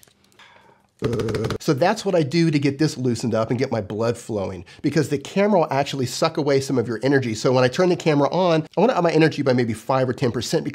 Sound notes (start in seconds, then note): 1.0 humming